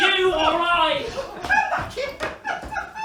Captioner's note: laughing